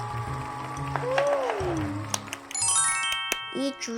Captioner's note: A round of applause